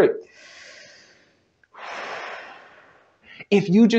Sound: breathe in; breathe out

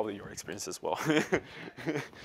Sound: chuckling

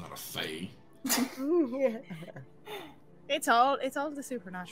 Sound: all chuckling

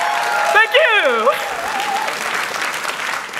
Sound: cheers; applause

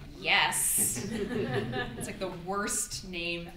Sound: audience laughs

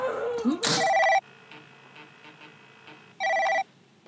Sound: phone ringing

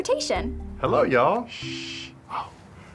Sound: shushing

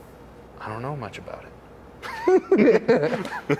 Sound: laughs

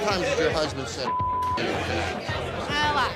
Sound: beep

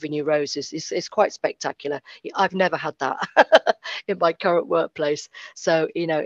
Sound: laughs

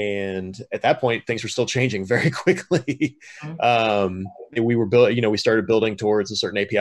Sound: laughs

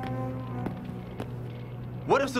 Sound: footsteps

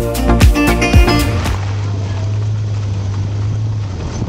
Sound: wheels over cobbles and then dirt

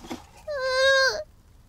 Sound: cries

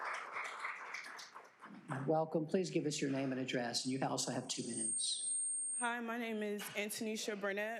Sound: applause

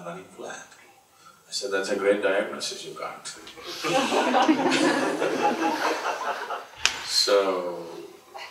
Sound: laughter

